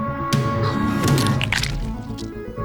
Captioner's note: bones break